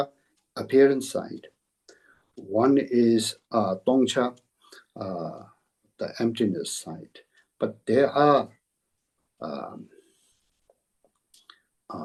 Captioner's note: tibetan